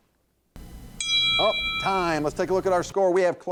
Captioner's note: bell rings